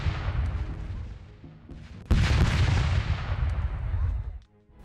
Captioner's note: gun fire and shouting